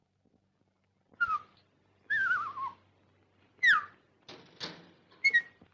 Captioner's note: whistling